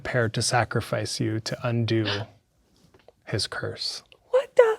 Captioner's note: gasps